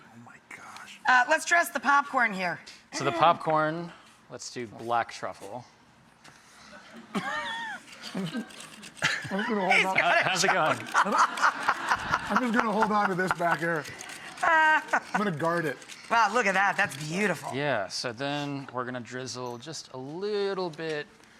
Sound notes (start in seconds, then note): 9.2 mumbles; 14.0 Rachael laughs